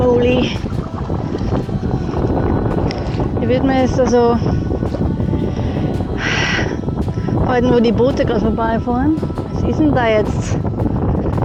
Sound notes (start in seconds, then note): 0.3 strong wind, paddling & Viking battlefield music; 6.5 sigh; 11.2 strong wind, paddling & Viking battlefield music